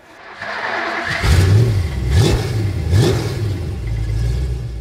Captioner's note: engine roars